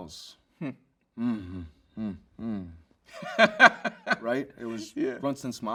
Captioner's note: laughs